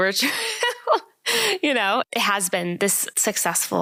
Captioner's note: laugh